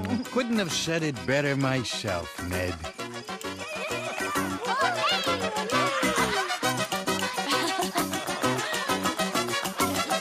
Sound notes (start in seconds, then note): 7.7 laughter